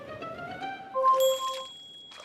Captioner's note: bell dings